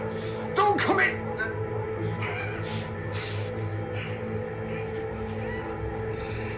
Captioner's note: coughs; suspenseful music